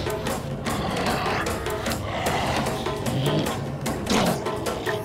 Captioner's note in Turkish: Şaman mırıldanıyor